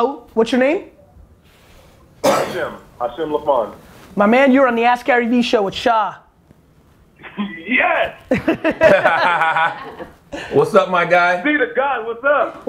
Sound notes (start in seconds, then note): 8.2 group laughter